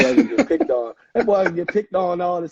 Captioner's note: laughing